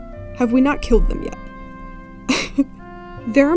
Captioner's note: laughs